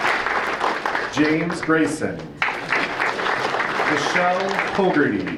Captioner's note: audience applauding